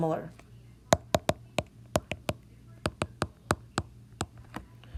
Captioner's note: tapping